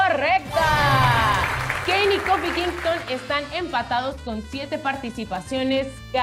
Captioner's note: applause